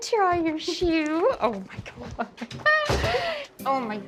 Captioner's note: chuckling